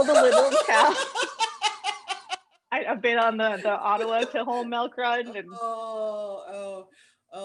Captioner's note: laughter